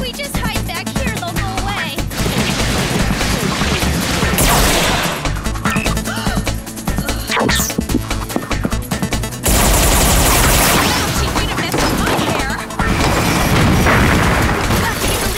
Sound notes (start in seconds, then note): 5.1 gunfire; 6.1 gasp; 11.1 gunfire; 14.2 crashing